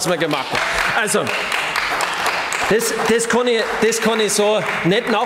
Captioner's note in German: Beifall bei den GRÜNEN